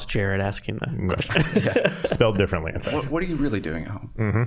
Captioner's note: all laughing